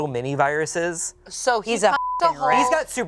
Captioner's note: beep